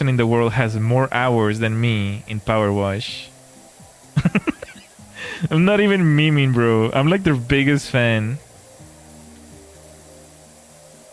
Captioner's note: laughter